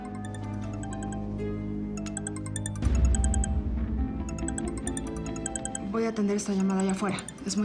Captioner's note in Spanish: Suena el celular